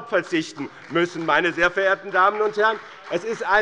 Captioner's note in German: Beifall bei dem BÜNDNIS 90/DIE GRÜNEN und der CDU